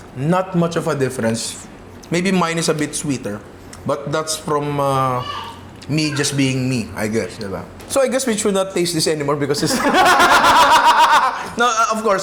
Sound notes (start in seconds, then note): 9.6 laughter